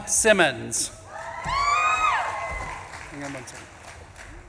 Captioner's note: audience claps and cheers